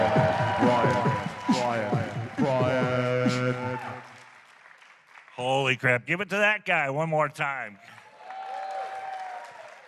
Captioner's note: applause